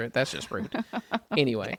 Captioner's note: laughs